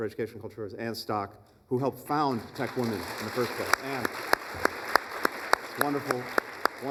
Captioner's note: applause